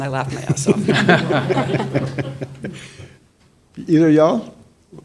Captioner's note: panelists laughing